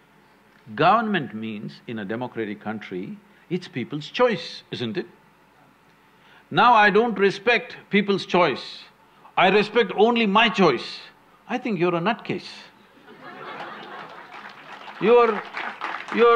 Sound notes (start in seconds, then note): 13.0 laughter/Applause